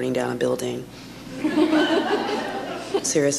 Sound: audience laughs

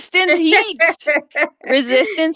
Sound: laughing

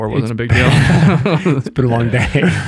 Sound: all laugh

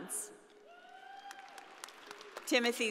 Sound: audience applauding

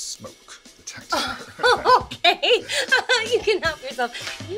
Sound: laughs

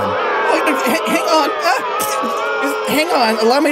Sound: audience boos

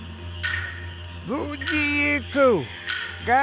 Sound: man speaks in indigenous language

